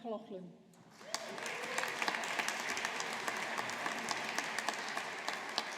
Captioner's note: audience applauding